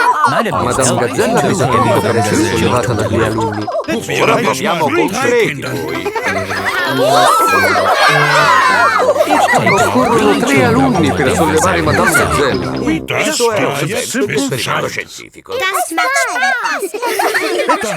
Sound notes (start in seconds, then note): 5.6 children straining; 5.7 madam gazelle laughing; 5.9 giggles; 15.6 children laughing